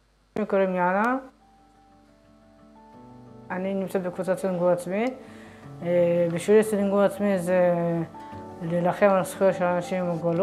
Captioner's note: speaks foreign language